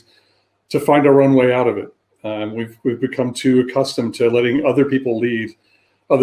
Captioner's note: erm